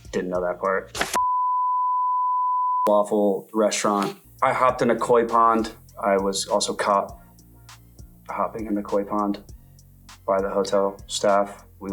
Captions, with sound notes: Didn't know that part. (beep) Waffle, restaurant. I hopped in a Koi pond. I was also caught hopping in the Koi pond by the hotel staff.